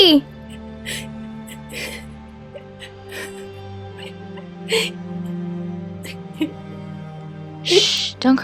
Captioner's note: Avila crying